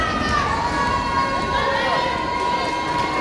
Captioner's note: yelling